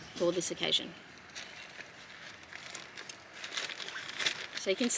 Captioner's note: heavy-duty plastic rustles lightly